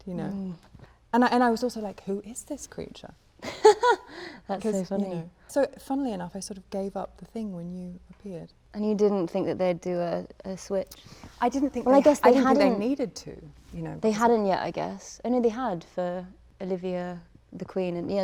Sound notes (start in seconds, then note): 3.5 laughs